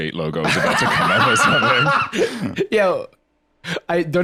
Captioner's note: laughs